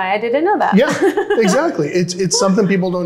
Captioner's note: chuckles